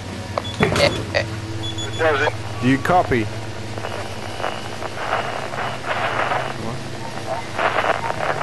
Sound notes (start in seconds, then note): 5.3 radio interference